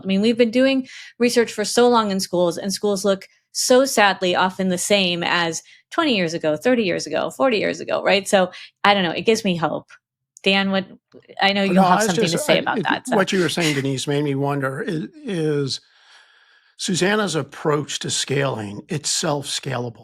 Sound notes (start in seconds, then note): 11.6 chuckling